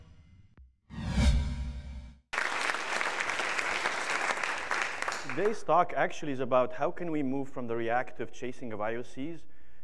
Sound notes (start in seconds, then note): 2.3 audience clapping